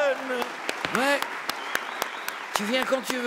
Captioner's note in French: cris et applaudissements